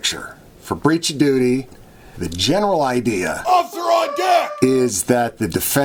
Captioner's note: shouted voices